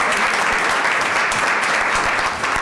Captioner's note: applause